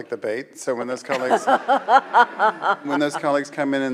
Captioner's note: laughing